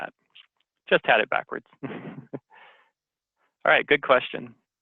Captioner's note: laughs